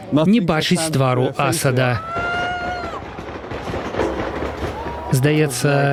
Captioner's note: shouting